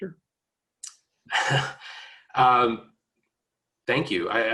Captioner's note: laughing